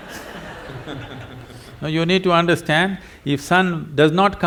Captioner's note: laughter